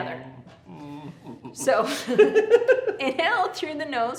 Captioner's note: laughs